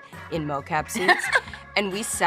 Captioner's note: laughing